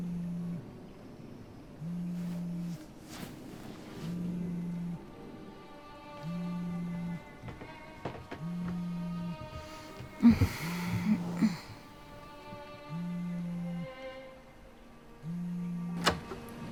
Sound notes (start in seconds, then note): 9.6 sighs; 13.0 soft suspenseful music